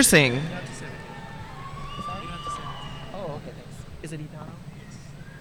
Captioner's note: speaking faintly